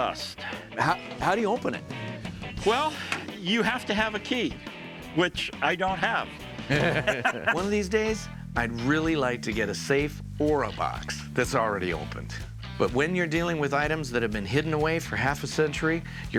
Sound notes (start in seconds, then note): 6.6 laughs